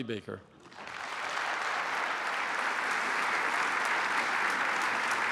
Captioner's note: applause